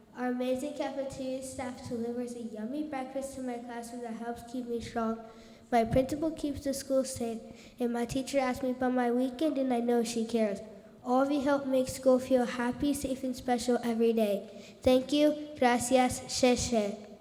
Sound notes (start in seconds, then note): 15.5 speaks in foreign language